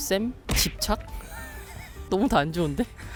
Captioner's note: laughter